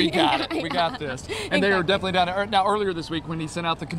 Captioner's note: laughter